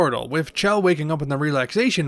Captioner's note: none